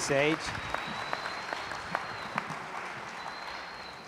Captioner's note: applause